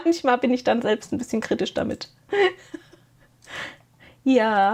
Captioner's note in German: gelächter